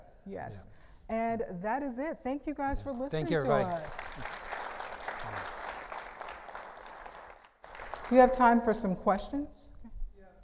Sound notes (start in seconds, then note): 3.2 audience applauding